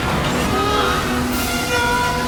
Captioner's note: scream